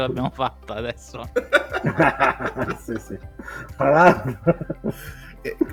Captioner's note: laughs